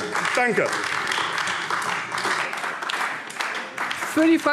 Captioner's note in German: Beifall AfD